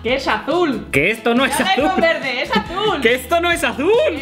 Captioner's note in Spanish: risas, risas